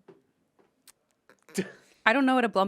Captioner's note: Ian laughs